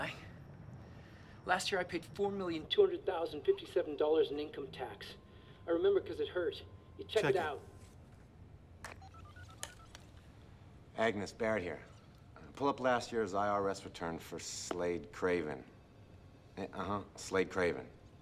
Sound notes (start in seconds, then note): 8.8 cell phone dialing